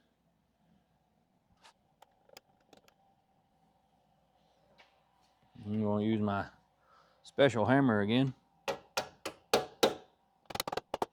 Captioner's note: hammer Tapping